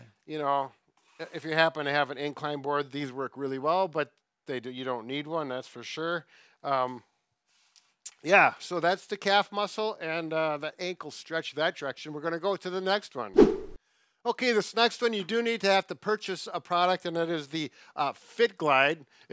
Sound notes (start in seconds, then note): 13.3 swift whooshing